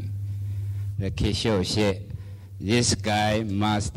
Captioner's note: speaking foreign language